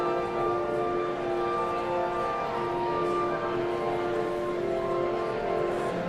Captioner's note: audience chattering continues